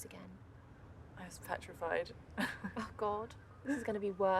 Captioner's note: laughing